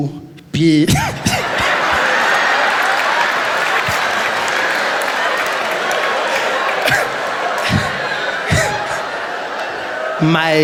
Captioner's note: laughter